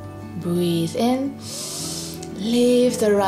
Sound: breathes in deeply

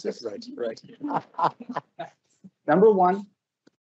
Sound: laughs

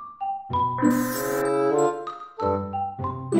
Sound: whirring

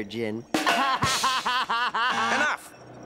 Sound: laughter

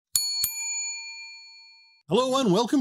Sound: bell dings

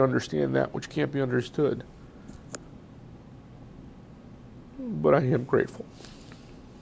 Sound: pauses for 3 seconds

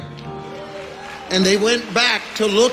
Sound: audience cheering

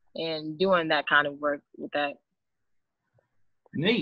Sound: none

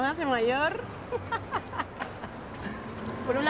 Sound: she laughs

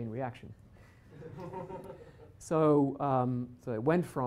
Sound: laughter

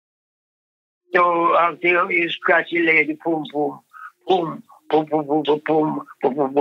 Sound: pum pum effects

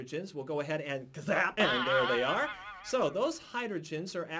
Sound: bwang!

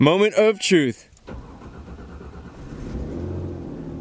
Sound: engine cranks, then starts

